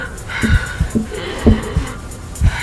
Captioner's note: tapping